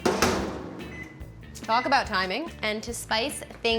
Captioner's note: microwave beeping